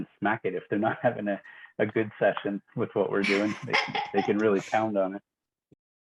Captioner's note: laughing